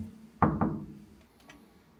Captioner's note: knock, knock